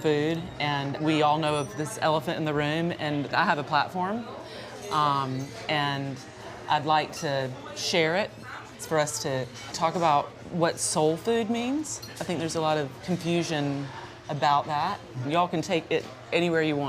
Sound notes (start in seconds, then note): none